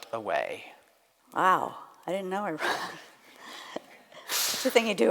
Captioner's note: laughs